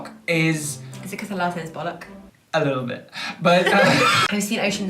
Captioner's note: laughter